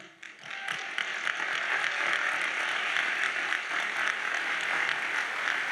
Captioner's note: audience cheers and applauds